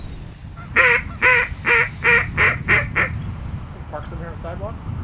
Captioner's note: duck whistle; voiceover